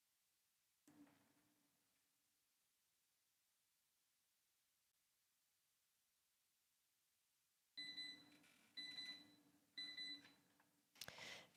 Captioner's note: moment of silence